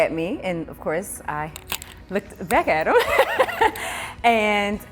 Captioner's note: laughs